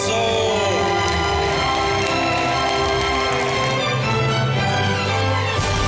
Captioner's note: audience applauding